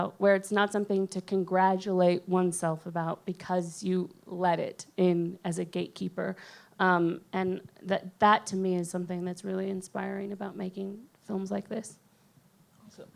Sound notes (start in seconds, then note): none